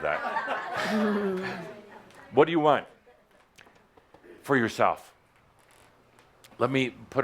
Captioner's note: laughter